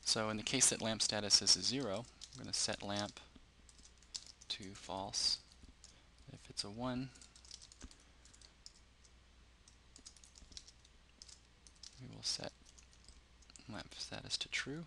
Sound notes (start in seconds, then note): 7.2 pause